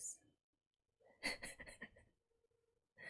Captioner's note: chuckles